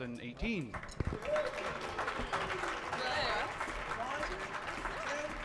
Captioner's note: audience clapping